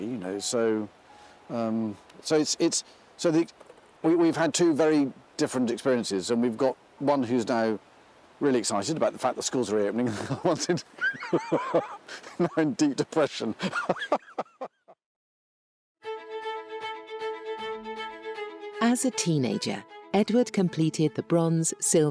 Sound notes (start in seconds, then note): 11.0 laughs; 16.1 thrilling music